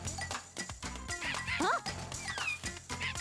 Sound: monkey cries

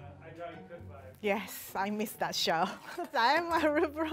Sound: laughs

